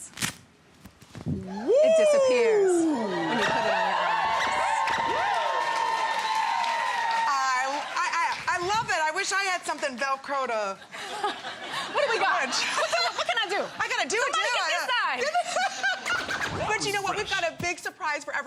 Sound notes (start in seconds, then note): 2.7 applause